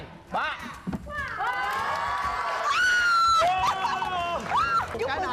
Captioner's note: shouting, clapping